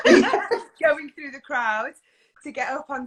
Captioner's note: laughs